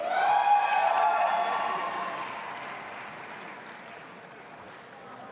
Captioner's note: audience applauding and cheering